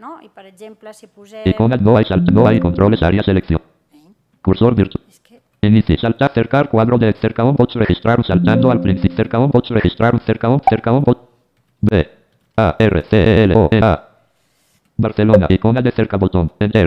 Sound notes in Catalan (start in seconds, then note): 1.3 veu del lector de pantalla